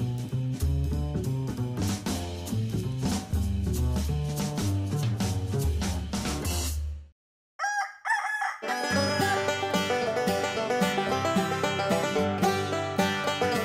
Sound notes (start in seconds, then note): 7.6 rooster crows; 8.6 banjo plays